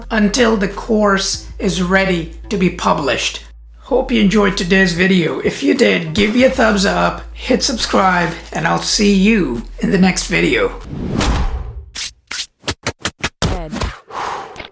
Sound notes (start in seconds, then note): 10.5 air whooshing